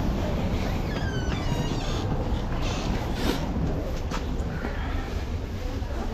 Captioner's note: door squeak